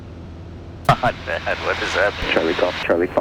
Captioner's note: laughing